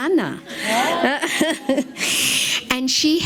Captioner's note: laughs